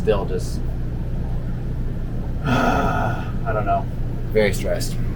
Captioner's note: sigh